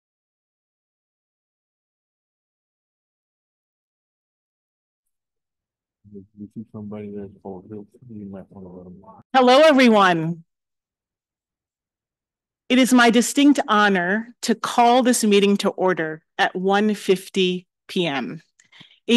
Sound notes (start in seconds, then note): 8.1 faintly speaking